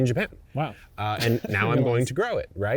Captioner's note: chuckles